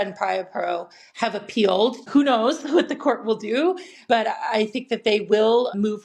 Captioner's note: chuckles